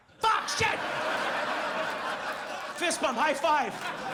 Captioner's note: audience laughs